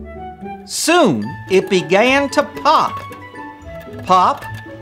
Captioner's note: popcorn pops